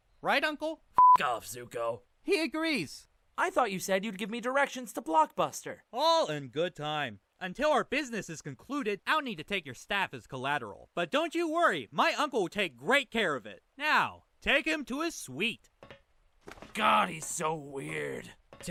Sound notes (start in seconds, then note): none